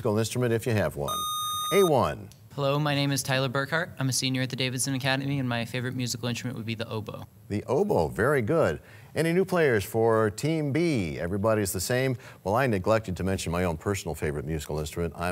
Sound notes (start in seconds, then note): 1.1 sound of a buzzer